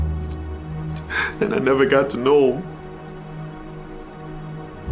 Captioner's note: crying